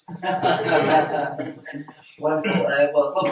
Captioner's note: all laugh